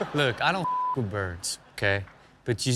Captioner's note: audience laughs; beep